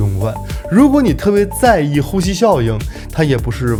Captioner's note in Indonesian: breathing effect